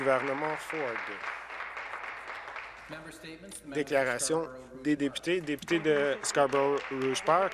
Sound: applause

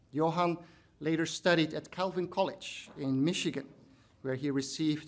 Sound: none

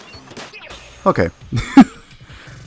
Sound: laughs

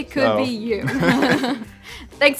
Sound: laughter

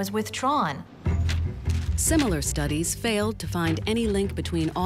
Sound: voiceover

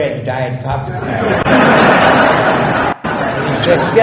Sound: laughter

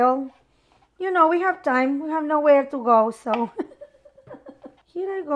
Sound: laughs

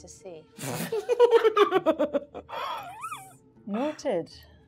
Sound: gamers laughing

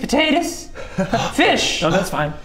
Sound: gasp

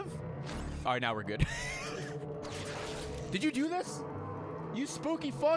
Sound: laughs

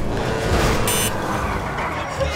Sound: beep

